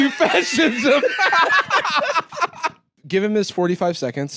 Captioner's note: both laughing